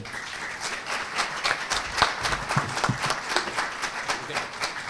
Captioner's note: audience applauding